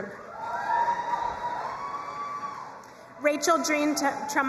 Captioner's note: crowd cheering and applauding